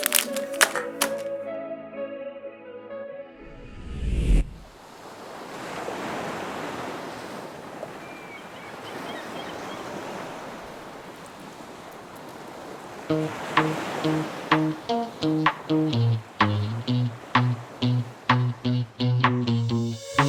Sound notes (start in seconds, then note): 0.0 accessories clink; 1.6 upbeat music; 5.0 waves billow; 8.2 sea gulls squawk; 13.3 upbeat techno music